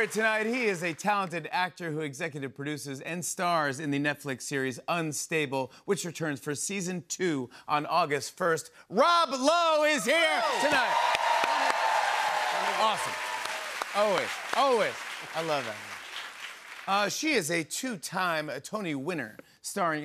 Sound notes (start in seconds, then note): 11.1 cheers and applause